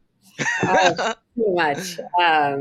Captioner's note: all chuckling